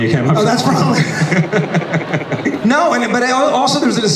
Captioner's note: laughs